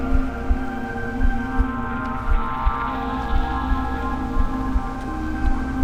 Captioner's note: bells ringing eerily